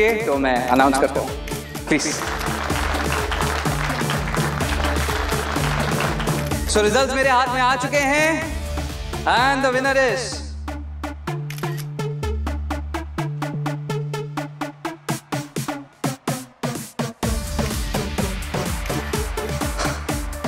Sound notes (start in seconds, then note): 1.8 audience clapping; 10.5 tense music playing